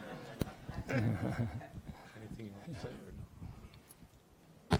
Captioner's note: audience giggling